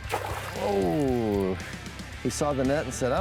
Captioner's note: water splashing